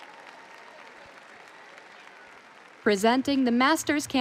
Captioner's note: audience applauding and cheering